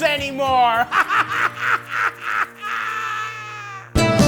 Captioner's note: laughing